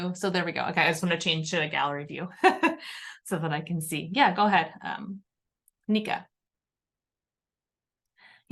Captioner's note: laughter